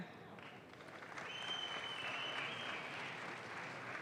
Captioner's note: audience claps